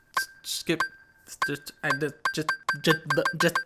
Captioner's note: stuttering